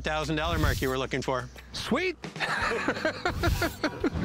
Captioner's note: laughs